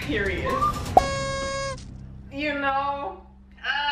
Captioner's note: party streamer blows